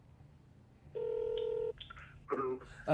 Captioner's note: distorted